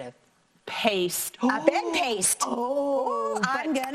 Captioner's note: gasps